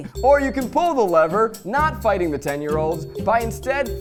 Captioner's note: none